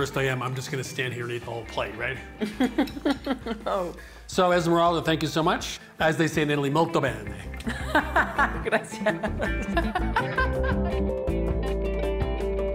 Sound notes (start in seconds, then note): 2.4 laughs; 7.4 laughs